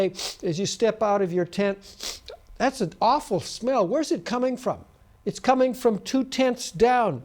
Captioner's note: sniffs